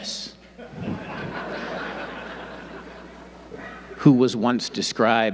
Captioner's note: audience laughing